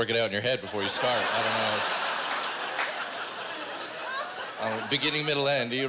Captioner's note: laughter